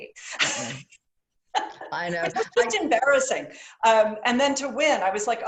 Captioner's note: laughter